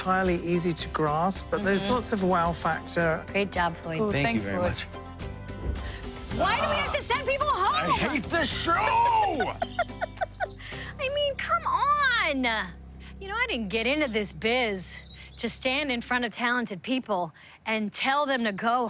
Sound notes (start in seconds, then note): 1.9 normal voice; 8.6 laughs